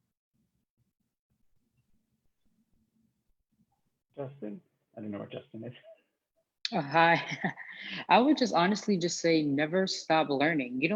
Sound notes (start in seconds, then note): 7.0 laughs